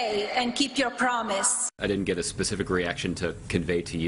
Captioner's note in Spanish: hablando en inglés